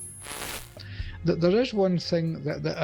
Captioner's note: static crackling